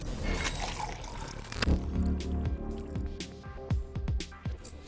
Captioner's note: coffee pouring